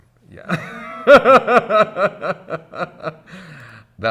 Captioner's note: laughter